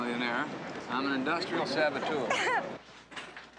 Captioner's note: she laughs